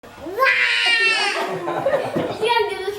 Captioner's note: girl roars; laughing